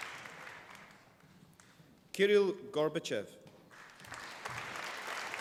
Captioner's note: applause